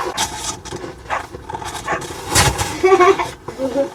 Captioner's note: car engine revs